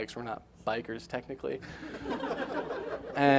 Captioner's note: laughing